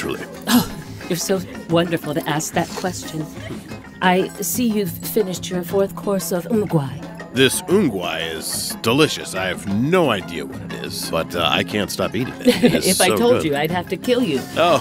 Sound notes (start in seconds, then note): 12.4 laughs